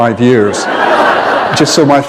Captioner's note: laughter